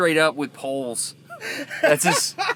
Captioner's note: laughs loudly